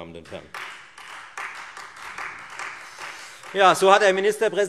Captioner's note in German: Beifall Freie Demokraten